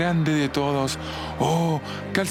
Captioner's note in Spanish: heavy breathing